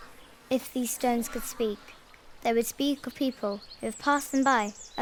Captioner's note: none